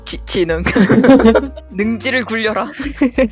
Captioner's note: laugh